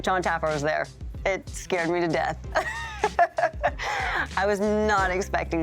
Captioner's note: laughs